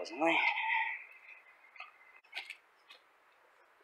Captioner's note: footsteps